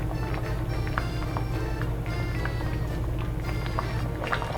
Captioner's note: bubbling sounds